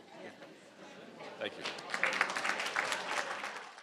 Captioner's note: crowd applauding